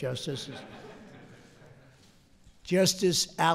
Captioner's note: laughter